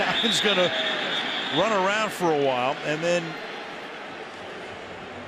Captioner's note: cheering